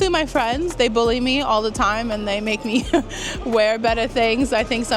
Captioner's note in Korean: 웃음